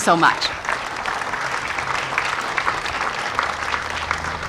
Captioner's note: audience applauding